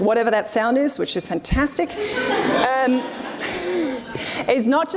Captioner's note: audience laughs